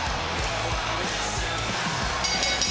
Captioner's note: bell rings